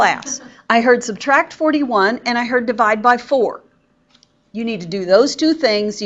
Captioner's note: student chuckles